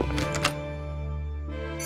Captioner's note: door opens